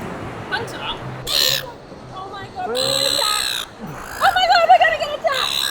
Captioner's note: seagull squawking